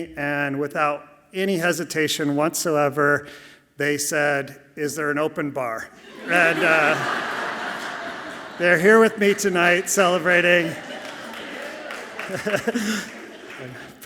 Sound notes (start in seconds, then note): 7.3 audience laughing softly; 10.8 audience clapping softly; 12.2 laughs softly